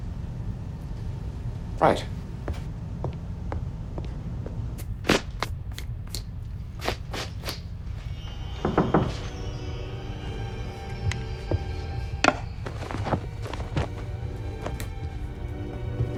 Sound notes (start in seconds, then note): 8.3 slow suspenseful music; 8.6 door knocking